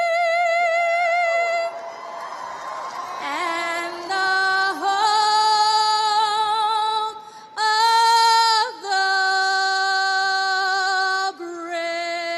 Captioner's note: cheers and applause